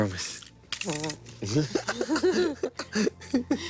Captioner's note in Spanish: Risas